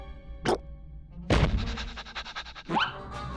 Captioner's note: panting; growling